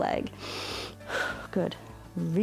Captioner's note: inhales and exhales